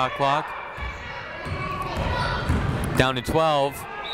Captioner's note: people shouting in the crowd